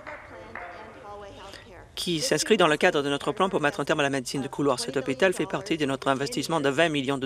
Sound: some Applause

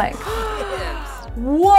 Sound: gasps

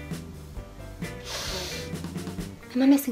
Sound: breathes in

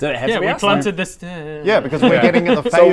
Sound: mumbles

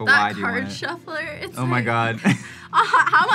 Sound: laughs

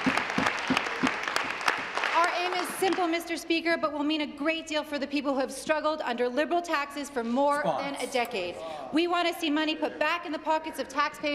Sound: applause

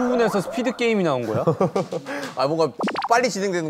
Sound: hehehehe

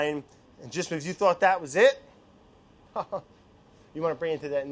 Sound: laughs

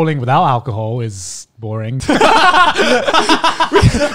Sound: laughing

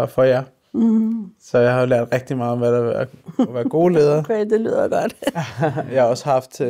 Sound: laughs

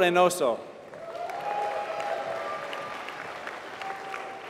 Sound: applause

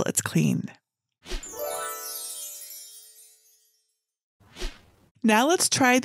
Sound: screen whooshing; twinkling music

